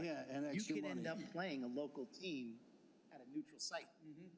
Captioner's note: laughter